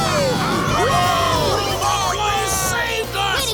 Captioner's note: cheering